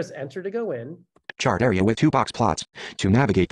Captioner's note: voiceover